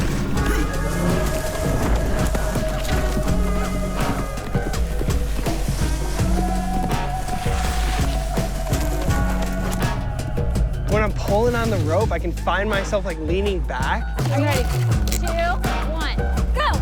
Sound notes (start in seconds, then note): 0.2 mellow music; 5.4 mellow music; 5.4 skis sliding; 8.7 mellow music continues